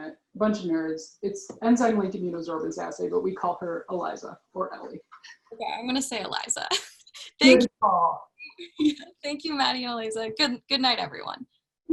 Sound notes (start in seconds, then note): 7.4 laughs